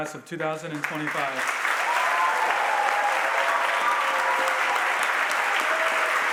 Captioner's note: audience applauds and cheers